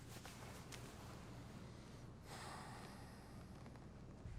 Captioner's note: sighs